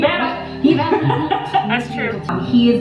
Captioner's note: laughing